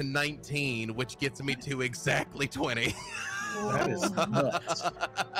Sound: laughs

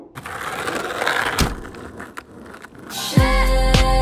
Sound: scraping

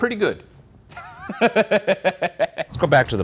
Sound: Ryan laughs

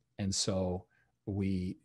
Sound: none

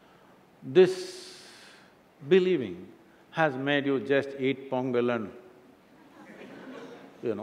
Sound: laughter

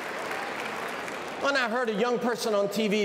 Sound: cheers and applause

